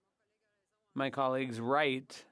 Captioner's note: speaking French